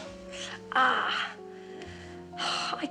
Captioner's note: groaning